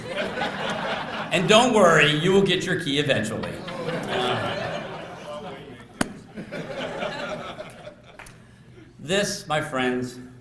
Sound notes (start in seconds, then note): 0.0 laughter; 3.8 laughter